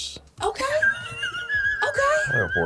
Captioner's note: guffaws